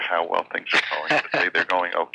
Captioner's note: laughing